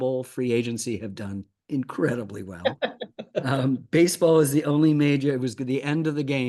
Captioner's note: Ken Rosenthal laughing